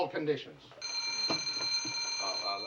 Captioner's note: ring